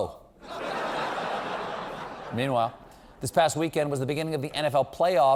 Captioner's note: laughter